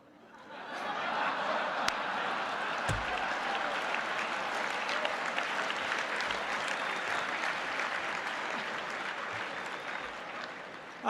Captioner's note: applause; laughter; applause